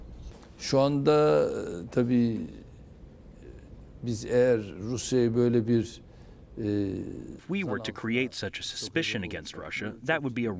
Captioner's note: through translator